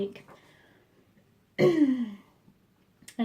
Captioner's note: clears throat